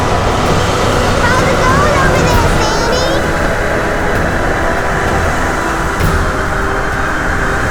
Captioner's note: shouts